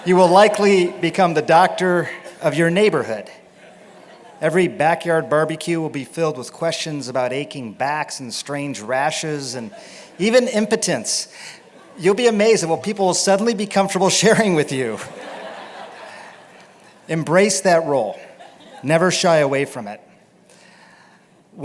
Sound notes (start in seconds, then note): 15.0 laughter